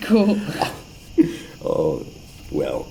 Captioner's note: laughter